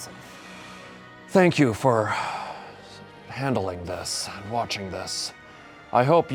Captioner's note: sighs